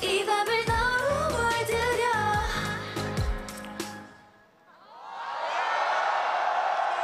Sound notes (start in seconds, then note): 4.9 screams and Applause